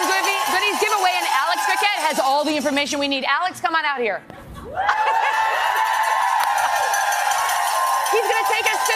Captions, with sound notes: [ APPLAUSE ] [ APPLAUSE ] >>> ITS TIME FOR OUR "GOLDEN >>> ITS TIME FOR OUR "GOLDEN